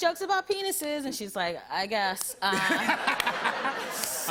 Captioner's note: laughter